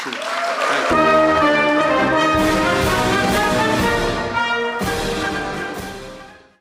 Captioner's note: applause